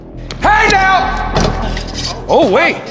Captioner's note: dunk sound